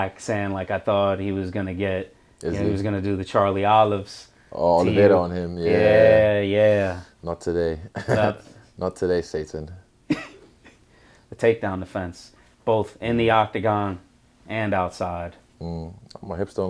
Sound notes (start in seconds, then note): 8.2 chuckle; 10.1 laughs